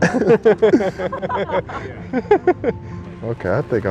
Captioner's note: all laughing